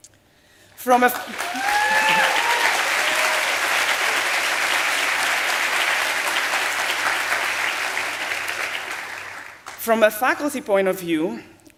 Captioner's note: applause